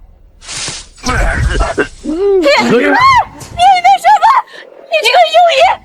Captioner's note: Screaming